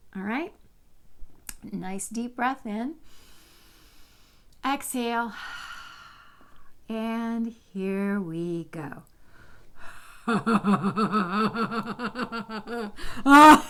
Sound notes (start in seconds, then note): 10.2 low throaty laughter